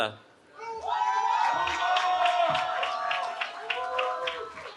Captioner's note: cheering